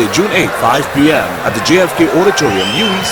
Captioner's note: wild applause and cheering for 22 seconds